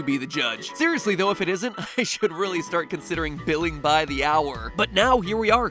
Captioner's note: chuckle